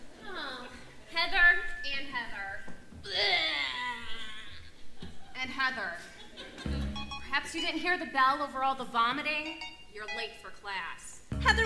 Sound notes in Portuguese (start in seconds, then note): 3.0 som de vômito